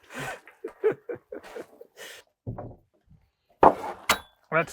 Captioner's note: speaker laughing